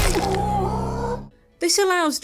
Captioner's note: punch noise; Goro gasps in pain